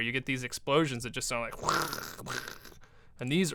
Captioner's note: making explosion sounds